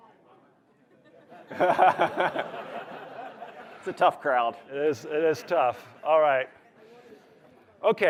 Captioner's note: laughter